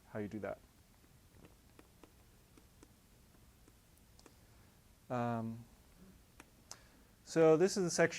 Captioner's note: pause